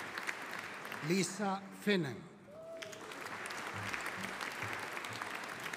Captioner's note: audience applauding